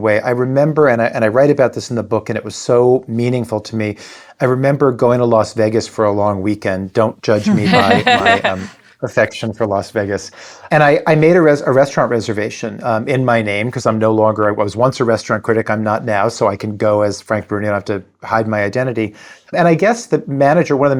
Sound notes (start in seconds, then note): 7.4 laughing